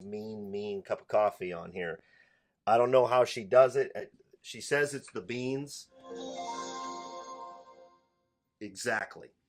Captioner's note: computer startup sound